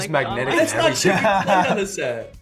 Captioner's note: Sean laughs